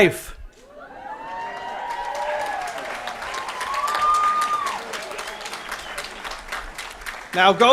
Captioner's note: applause & Cheering